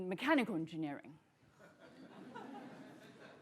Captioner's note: laughter